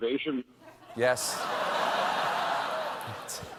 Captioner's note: laughter